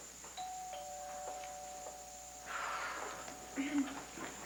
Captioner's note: doorbell rings